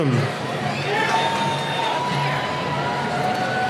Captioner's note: cheering